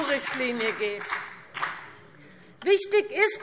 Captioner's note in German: Beifall BÜNDNIS 90/DIE GRÜNEN und vereinzelt CDU